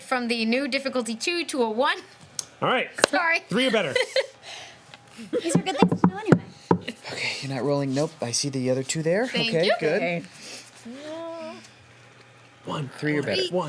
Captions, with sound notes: from the new difficulty two to a one. All right. Sorry. Three or better. (laughs) (knocking) You're not rolling, nope, I see the other two there, okay, good. Thank you. One, three or better.